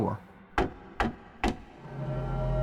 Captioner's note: knock at door